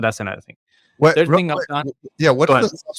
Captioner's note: stuttering